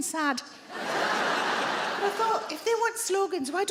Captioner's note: audience laughing